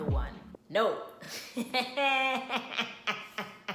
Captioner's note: evil cackle